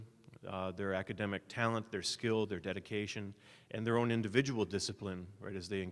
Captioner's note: none